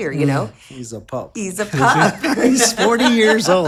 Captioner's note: laughs